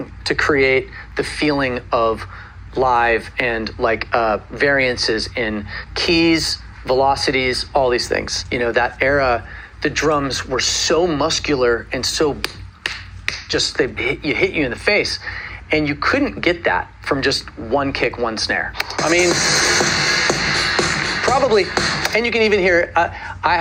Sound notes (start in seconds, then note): 12.8 slapping fist; 18.8 drums beating